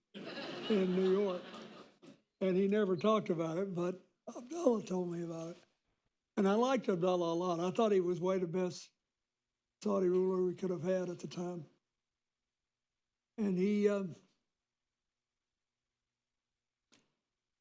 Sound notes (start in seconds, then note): 0.0 laughter